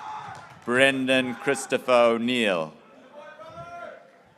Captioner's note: graduates cheering